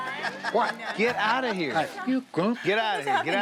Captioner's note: laughing